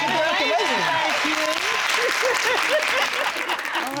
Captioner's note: laughing